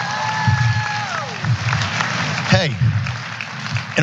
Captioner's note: applause